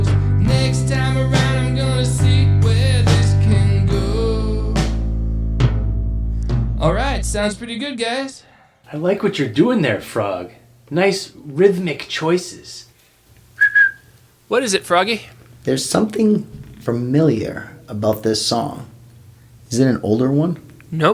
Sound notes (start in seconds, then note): 13.5 whistles